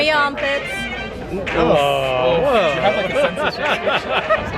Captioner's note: laughs